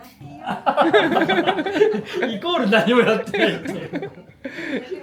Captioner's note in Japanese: 笑い声